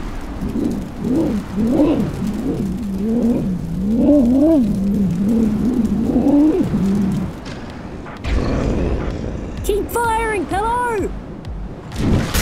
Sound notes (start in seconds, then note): 0.1 dragon grunting; 8.3 growl